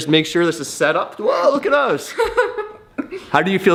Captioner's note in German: lacht